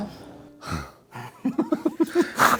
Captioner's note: haha